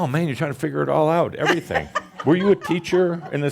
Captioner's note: she laughs